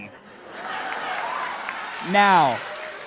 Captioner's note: crowd laughing